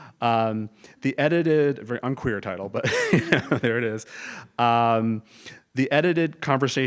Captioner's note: laugh